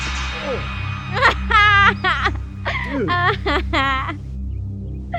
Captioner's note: tampon splats; Scott groans; Janet laughing